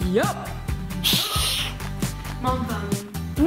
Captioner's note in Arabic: الهسهسة